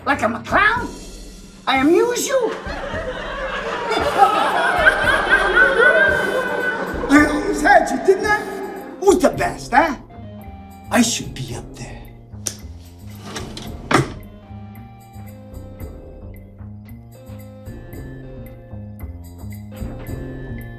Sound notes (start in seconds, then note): 2.4 audience laughs wildly; 4.3 he laughs wildly; 7.2 his voice echoes